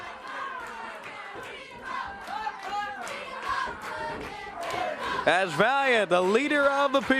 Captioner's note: crowd cheering